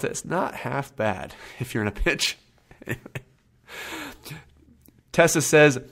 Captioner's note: laughs